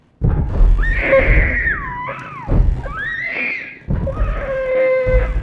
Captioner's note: girl screaming